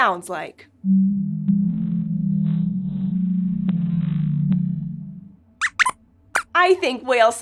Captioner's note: squeaks squeaks